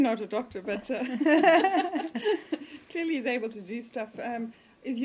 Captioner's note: laughter